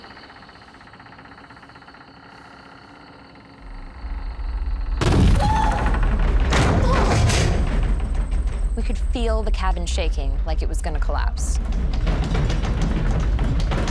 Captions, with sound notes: [banging] Ah! [banging] We could feel the cabin shaking like it was going to collapse. [rattling]